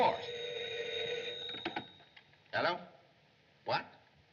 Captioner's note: ringing